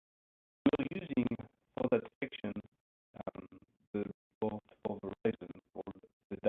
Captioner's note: audio blurs